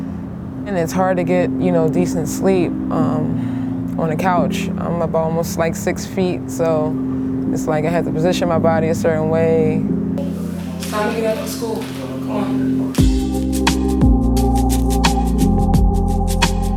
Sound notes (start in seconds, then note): 10.2 murmuring